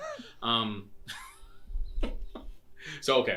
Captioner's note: laughing